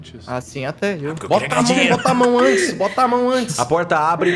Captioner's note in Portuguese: risos